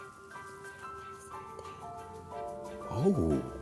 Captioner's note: whispering